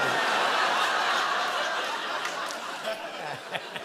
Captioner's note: laughter